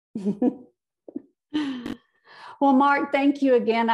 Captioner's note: laughs